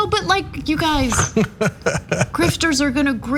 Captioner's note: laugh